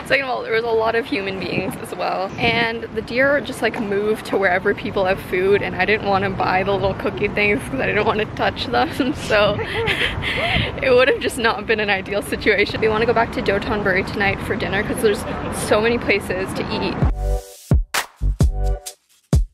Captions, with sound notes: Second of all, there was a lot of human beings as well. And the deer just like move to wherever people have food. And I didn't want to buy the little cookie things 'cause I didn't wanna touch that. (laughs) So it would've just not been an ideal situation. Do you want to go back to Dotonbori tonight for dinner? 'Cause there's so many places to eat. (calm music)